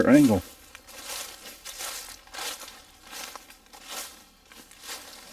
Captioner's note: leaves crackling